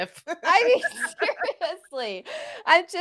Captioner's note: laughs